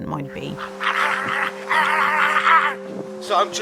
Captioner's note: arrr--arrr--arrr-arrrhgh! Arr, arr, arrhgh!